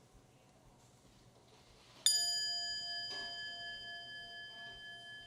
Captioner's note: chime